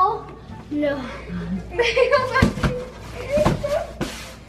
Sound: laughs

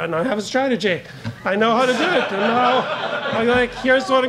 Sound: audience laughs

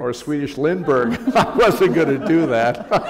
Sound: laughter

